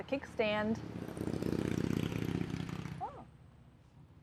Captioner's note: motorcycle engine roars